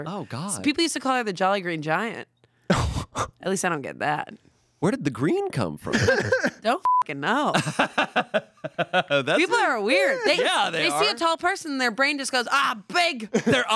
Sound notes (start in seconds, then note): 2.7 laughs; 6.8 beep; 7.6 laughs